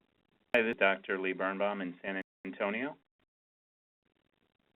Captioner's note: voiceover